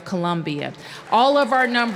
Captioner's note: applause